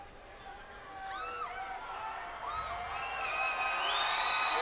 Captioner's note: audience cheering